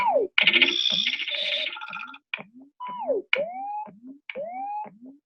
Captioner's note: electronic noises